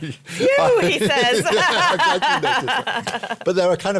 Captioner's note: laughter